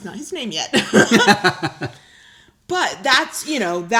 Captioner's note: laughing